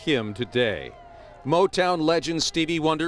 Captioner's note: cheering